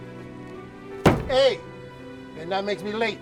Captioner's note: loud thud